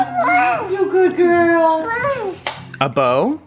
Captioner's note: babbles